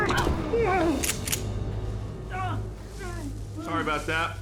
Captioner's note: thud, groans; guns click, man writhes on ground